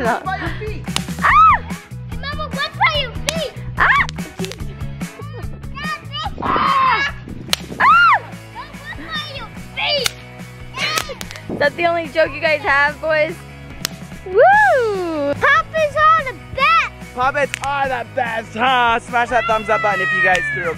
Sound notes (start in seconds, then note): 1.2 screams; 3.8 screams; 4.5 yelling; 6.4 screams